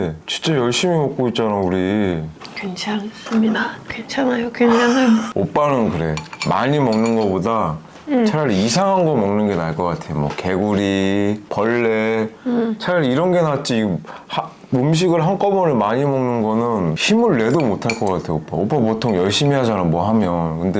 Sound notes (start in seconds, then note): 2.4 laughing